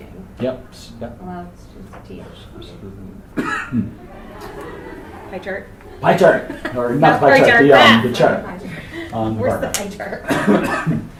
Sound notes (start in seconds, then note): 3.8 laughs; 3.8 attendees laughing